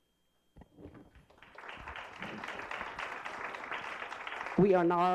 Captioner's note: applause